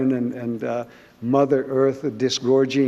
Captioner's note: none